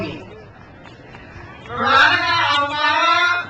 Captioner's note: crowd cheers